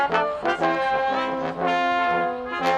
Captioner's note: none